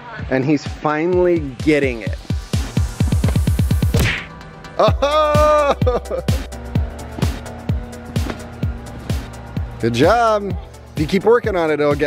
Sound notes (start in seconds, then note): 2.2 upbeat electronic music begins; 3.9 snare drum hit; 4.8 laughter